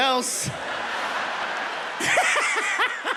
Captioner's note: audience laughing; Fluffy laughing